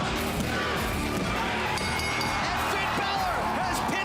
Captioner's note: bell ringing